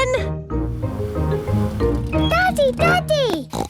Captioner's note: snorts